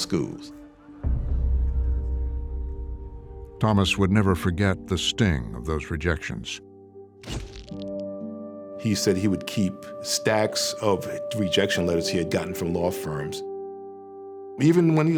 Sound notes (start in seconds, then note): 7.6 shutter clicks